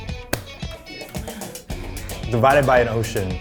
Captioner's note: clapping